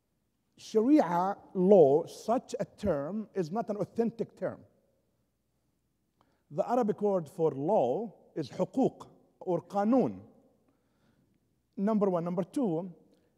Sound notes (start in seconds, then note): 8.1 foreign language spoken